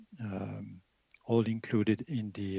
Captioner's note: speaking French